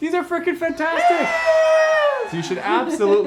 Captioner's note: crowd cheering; laughing